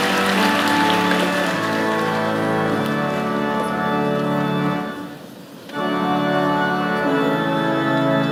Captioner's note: applause